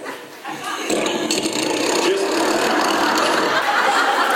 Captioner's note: imitates loud snoring; audience laughs